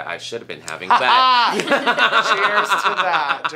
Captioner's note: all laugh